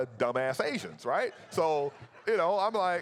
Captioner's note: audience laughs